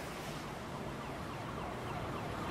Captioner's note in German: Entfernter Verkehrslärm